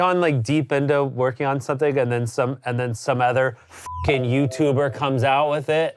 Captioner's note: beep